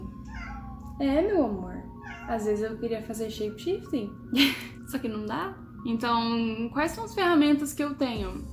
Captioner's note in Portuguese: miau!